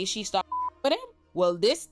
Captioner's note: beep